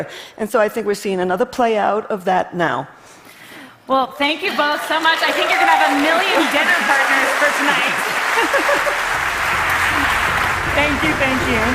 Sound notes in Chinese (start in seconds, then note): 8.5 Applause; 8.5 掌聲